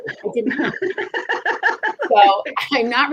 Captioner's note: laughs